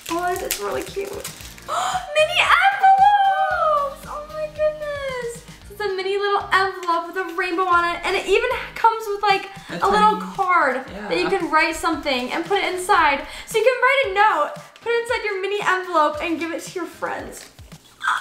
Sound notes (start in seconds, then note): 1.6 gasps